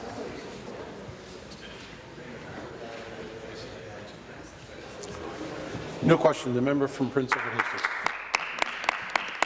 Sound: conversation din

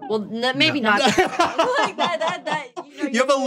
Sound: laughter

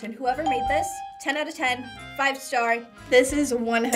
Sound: bell rings

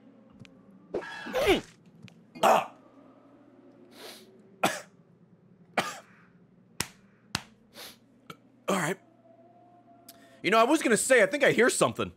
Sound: chokes; coughs

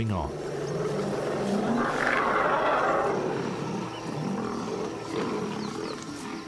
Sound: elephant grunts; lions growl

